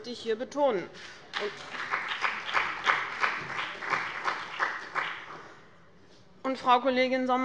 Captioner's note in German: Beifall bei dem BÜNDNIS 90/DIE GRÜNEN und der CDU